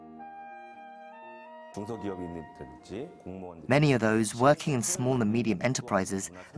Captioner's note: Korean